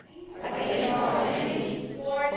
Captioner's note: crowd speaking